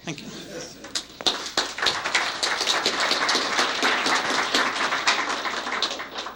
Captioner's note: applause